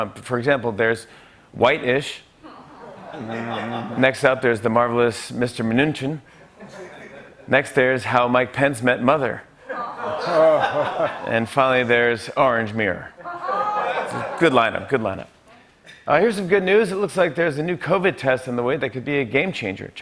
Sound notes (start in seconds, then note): 2.5 laughter; 9.6 laughter